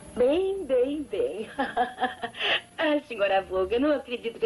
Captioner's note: laughs